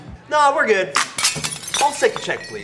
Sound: dish shatters

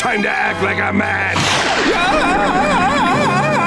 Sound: screaming

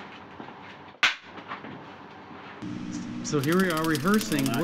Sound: slate clicking

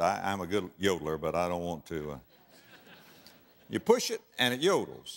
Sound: audience laughter

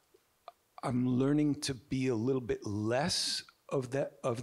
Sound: none

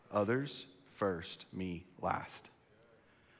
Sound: none

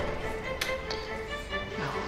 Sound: door opening

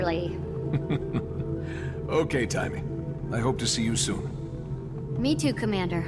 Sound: laugh

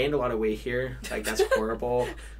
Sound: chuckles

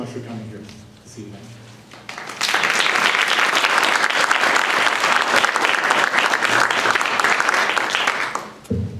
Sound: applause

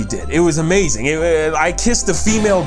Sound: stutters

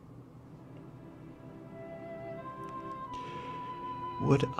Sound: breathing

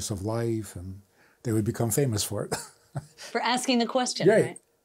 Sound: laughs

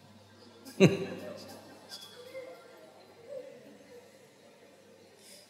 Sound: laughs

